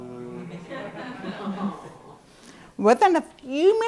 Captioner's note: laughter